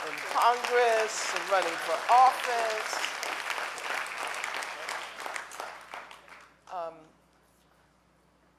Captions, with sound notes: is running for office. (audience applauding)